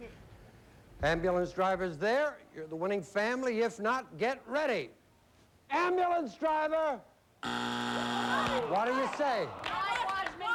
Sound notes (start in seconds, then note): 7.4 buzzer